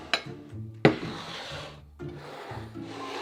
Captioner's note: bowl sliding